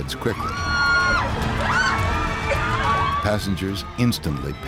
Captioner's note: passengers screaming